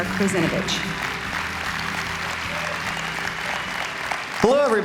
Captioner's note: applause